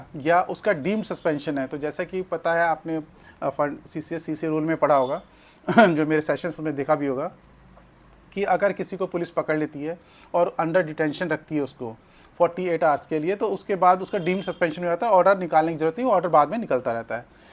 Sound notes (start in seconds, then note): 5.6 sound of clearing throat